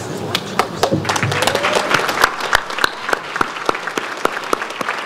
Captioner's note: audience applauds